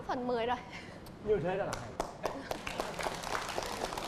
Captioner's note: applause